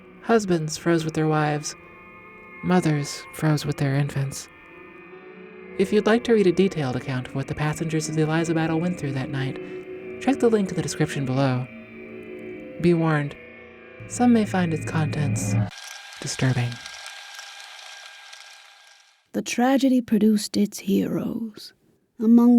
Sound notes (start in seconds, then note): 17.2 tape reel fluttering